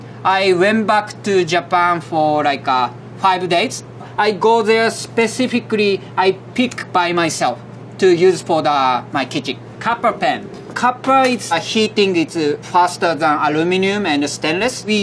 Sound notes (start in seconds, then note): 10.1 text chiming